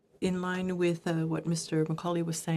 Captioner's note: speaking in French